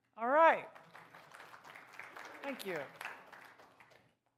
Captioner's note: applause